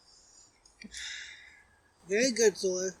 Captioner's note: Loki sighs